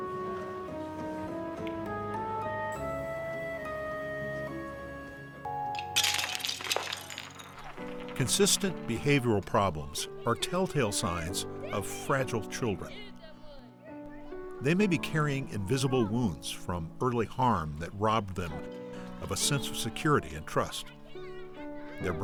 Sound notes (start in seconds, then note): 5.7 toys Clatter